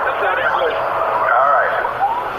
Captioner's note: footage starts getting more staticky